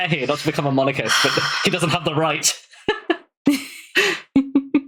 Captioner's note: laughs